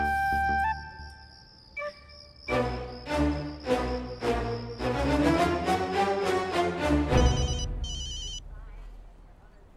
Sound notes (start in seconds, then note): 7.1 phone ringing